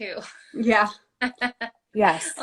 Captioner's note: laughter